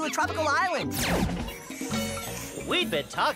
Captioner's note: slurping